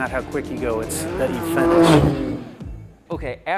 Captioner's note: car engine whizzing